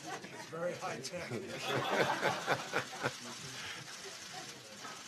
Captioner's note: laughter